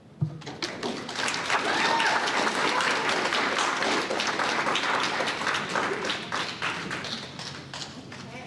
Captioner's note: applause